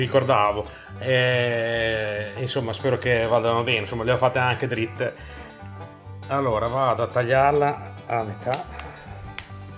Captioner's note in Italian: Applauso